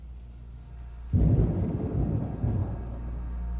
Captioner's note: thunder